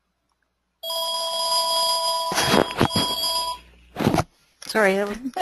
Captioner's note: phone ringing